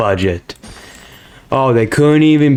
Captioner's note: inhales Oxygen